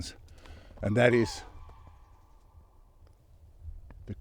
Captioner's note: trumpeting